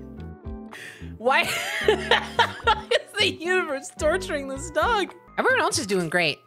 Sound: laughing

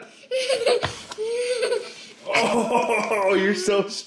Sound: giggling

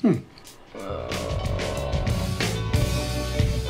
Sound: groaning; mellow jazz music

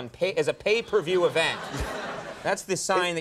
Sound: audience laughs

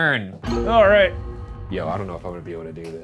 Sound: bell rings

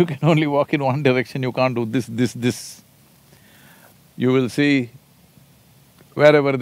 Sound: Sadhguru laughs

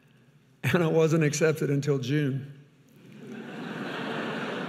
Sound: audience laughing; chuckles

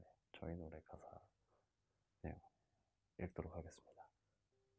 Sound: none

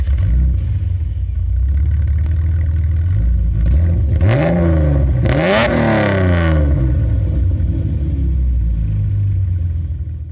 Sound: car starting up; V6 engine idling and revving

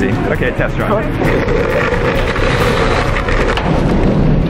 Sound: bike rolling

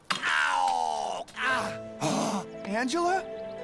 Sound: birds chirp; groans

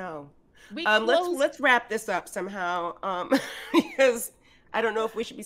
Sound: Fairuza chuckles

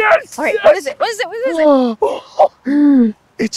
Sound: gasping

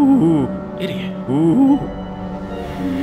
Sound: whisper

